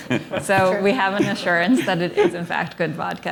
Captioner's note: laughter